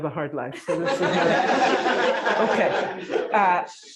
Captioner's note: laughter